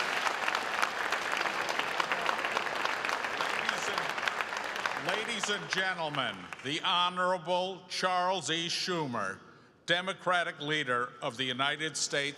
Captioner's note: applause